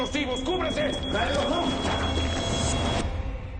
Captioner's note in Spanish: Exclamación